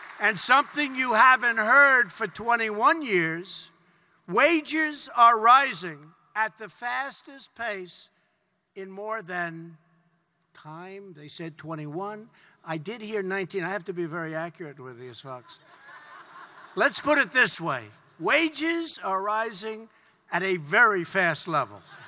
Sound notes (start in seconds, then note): 15.4 laughter